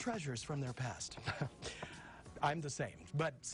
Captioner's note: laughing